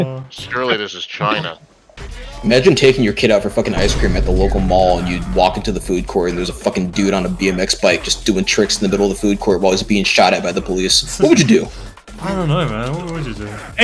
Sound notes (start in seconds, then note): 3.7 Vine Boom SFX